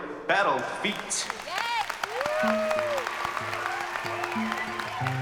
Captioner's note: cheering and applause; gentle acoustic music playing